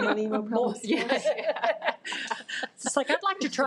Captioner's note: participants laughing